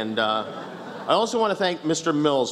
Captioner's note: laughs